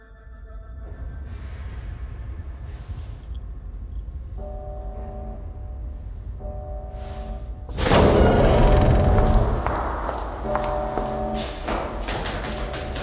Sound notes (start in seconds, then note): 3.7 a distant alarm; 7.7 door opens